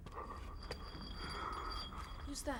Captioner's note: chain rattling